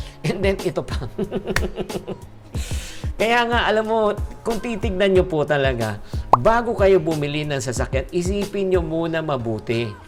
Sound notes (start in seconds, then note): 1.1 laughs; 1.5 clap